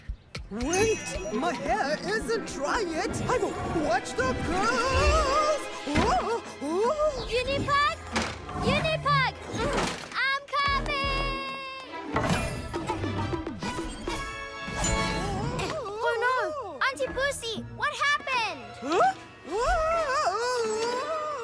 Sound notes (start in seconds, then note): 15.2 cries of distress